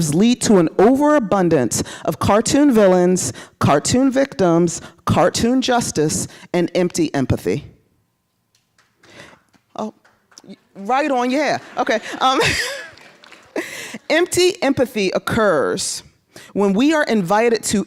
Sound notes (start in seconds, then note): 8.2 applause; 11.7 laughing